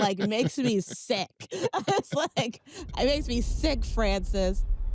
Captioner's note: laughs